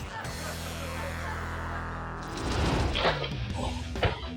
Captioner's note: audience laughing